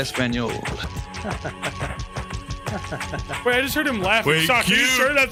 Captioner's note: Zacharie laughs